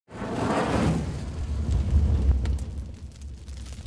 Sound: fire igniting

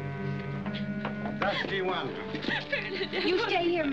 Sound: crying

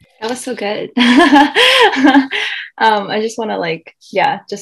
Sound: laughs

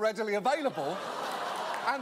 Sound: audience aw's

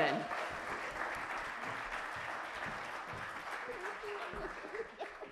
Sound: audience clapping

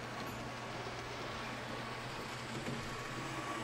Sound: miniature train whirs

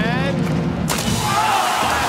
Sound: splash; applause and cheering

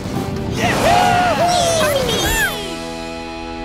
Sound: cheering

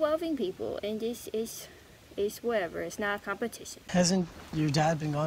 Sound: baby voice; intense baby voice

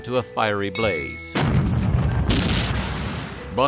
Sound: explosion

